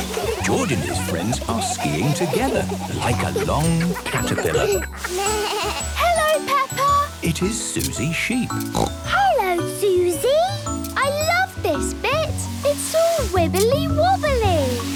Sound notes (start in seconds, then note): 4.8 bleating; 8.6 snorting